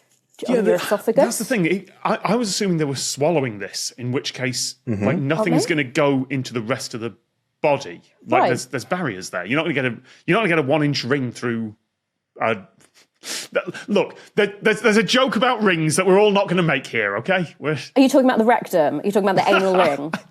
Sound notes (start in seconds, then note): 13.3 snickers; 19.4 laughs